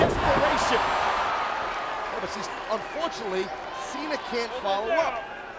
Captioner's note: applause